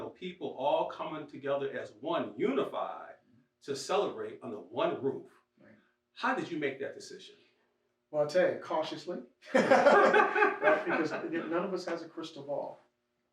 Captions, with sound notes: people all coming together as one unified to celebrate under one roof. How did you make that decision? Well, I'll tell you, cautiously (laughs) because none of us has a crystal ball.